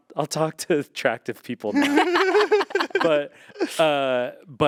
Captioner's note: group laughing